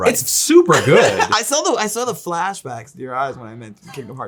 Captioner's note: laughs